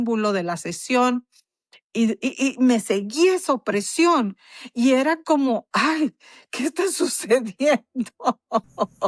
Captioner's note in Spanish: risas